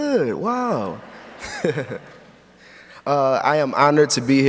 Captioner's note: audience laughs